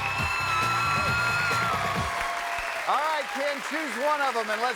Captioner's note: cheers and applause